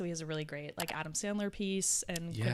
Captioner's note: computer mouse clicking